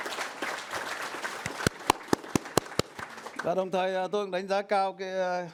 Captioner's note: audience applauds